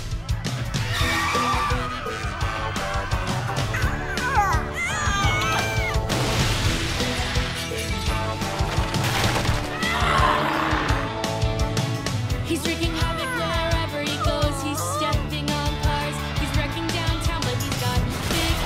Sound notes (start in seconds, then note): 3.3 cooing; 4.1 screaming; 9.8 roars